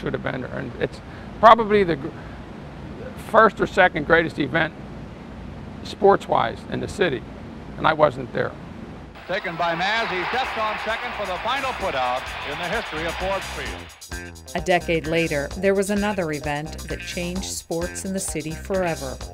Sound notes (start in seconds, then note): 8.8 announcer talking